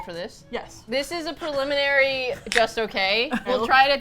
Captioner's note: laughs